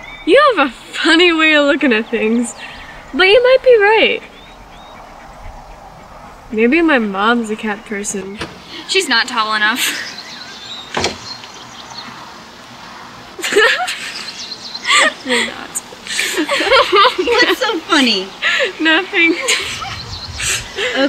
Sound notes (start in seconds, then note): 10.9 door closes; 13.4 both laughing